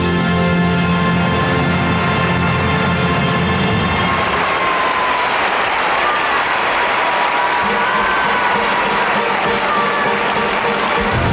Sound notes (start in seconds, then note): 1.6 audience applauding; 8.2 dramatic music